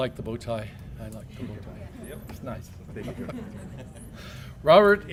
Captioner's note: laugh